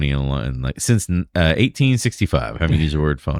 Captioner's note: uh